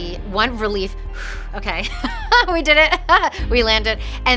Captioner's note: exhales